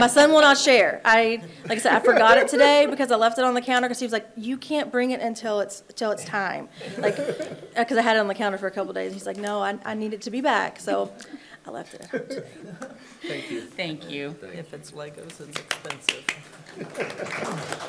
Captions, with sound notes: My son will not share. (attendees laughing) Like I said, I forgot it today (attendee laughing) because I left it on the counter 'cause he was like, "You can't bring it until it's time." (attendees laughing) Yeah, 'cause I had it on the counter for a couple days, and he's like, "No, I need it to be back," so I left it out today. (attendees laughing) - Thank you. - Thank you. - Oh, thank you. - If it's LEGOs, it's expensive. (attendee clapping)